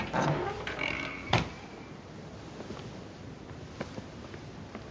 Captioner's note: creaking